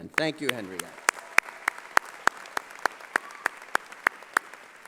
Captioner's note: applause